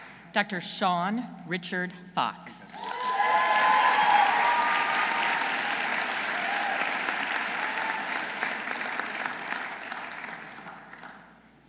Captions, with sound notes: Dr. Sean Richard Fox. -(audience cheering) -(audience applauding)